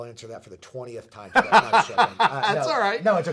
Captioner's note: laughter drowns out speakers voice